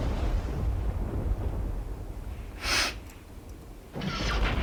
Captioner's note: thunder rumbling